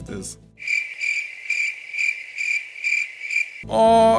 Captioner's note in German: Grillenzirpen